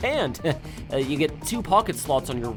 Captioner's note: chuckles at bad pun